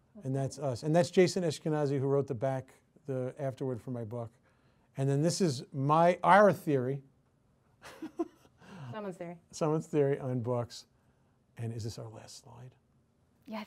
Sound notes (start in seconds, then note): 7.8 chuckles